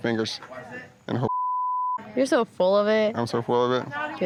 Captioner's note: beep